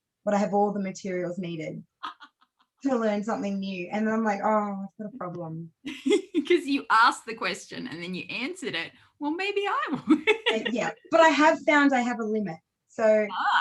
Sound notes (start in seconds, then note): 5.8 laughs; 10.0 laughs